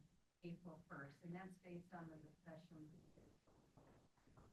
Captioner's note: speaks faintly